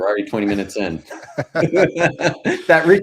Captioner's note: both laughing